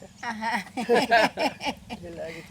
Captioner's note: laughs